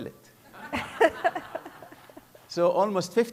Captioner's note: laughter